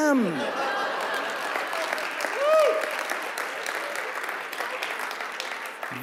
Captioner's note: audience laughing and clapping